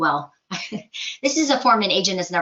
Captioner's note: chuckles